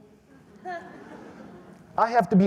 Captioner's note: audience laughs